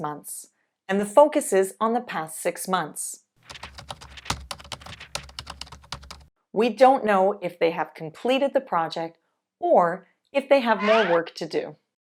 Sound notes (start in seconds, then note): 3.3 paper tearing